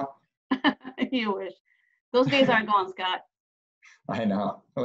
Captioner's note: laughs